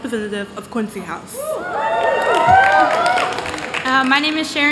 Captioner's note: cheers